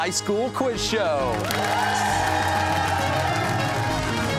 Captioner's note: cheers and applause